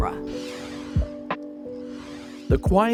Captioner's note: gentle music; screen whooshing